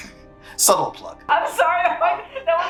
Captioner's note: laughing; laughs